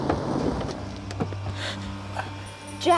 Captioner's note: kerry gasps